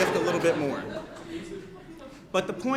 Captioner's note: laughter